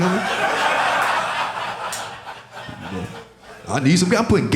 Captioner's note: audience laughing